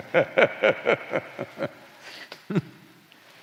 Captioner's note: laughs